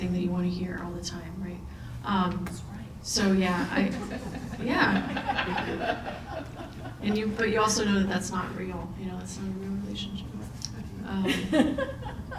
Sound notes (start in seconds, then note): 3.5 all laughing